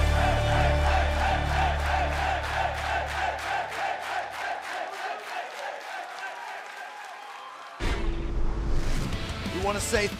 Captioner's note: fans chanting